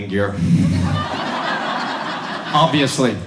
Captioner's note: audience laughs